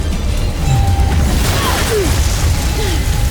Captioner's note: cackles; powerful whoosh-crackle; sparkling whoosh; grunts & powerful blast; sparkling whoosh, enchanting chimes